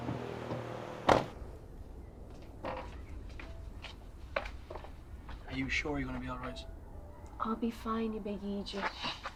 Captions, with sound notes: [door bangs shut] Are you sure you're gonna be alright? I'll be fine you big eejit!